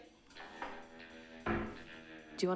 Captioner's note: clanking